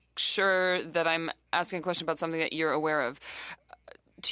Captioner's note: speaking French